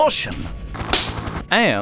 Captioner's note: smack